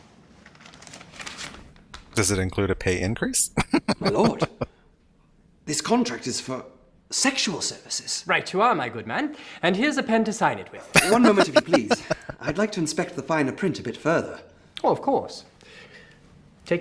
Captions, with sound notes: Does it include a pay increase? [Laughing] [Laughing]